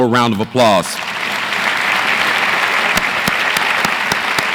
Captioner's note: audience applauds